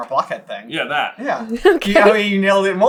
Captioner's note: laughing